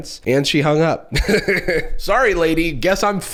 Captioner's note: chuckles